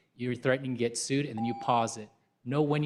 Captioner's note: beep